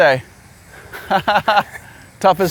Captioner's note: laughs